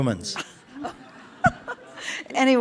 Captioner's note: participants laugh